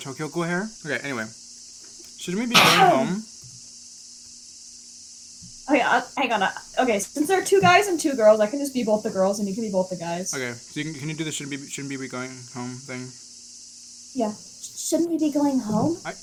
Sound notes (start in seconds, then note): 2.5 coughs again